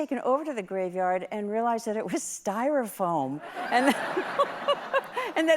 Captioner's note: laughter